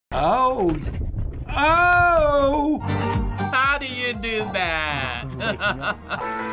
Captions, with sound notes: - Oh. (impressed) Oh! - How do you do that? (laughing)